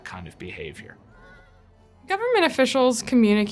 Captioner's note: horse whinnying